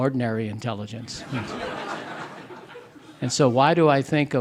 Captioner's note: audience laughing